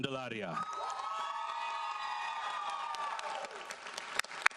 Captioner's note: audience applauds